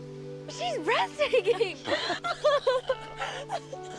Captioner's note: laughing